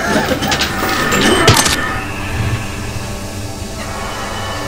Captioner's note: blade slicing